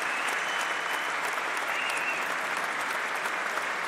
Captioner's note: applause